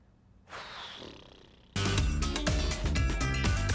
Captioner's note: exhales; upbeat music